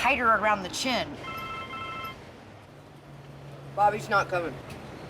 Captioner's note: cell phone beeps